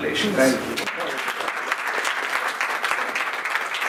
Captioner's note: clapping